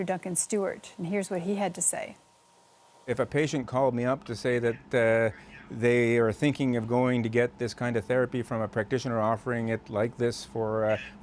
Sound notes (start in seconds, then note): none